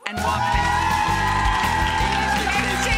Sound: upbeat music; audience applauding

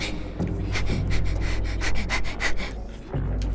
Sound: panting continues

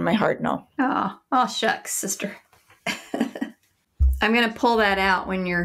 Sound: laughs

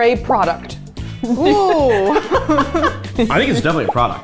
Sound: laughing

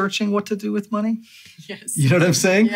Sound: laughs

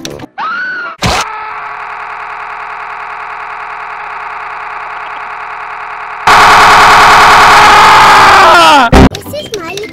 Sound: Peppa Screaming And Broked Her Leg

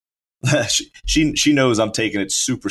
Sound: laughs

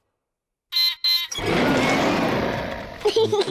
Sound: beeps and roars; laughs

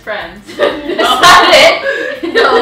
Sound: both laugh

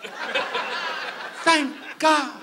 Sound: audience laughs

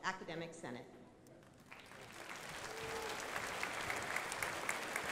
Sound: crowd applauding

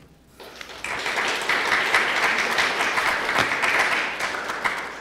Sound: applause

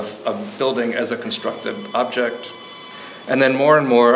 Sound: phone ringing

